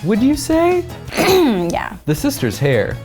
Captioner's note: clears throat